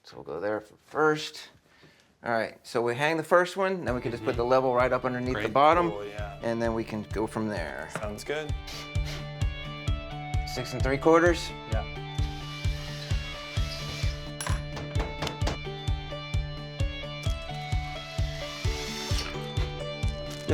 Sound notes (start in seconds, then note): 8.5 bright music; 12.0 drill whirring; 14.6 soft hammer banging; 17.2 drill whirring